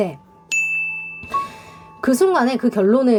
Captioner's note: bell rings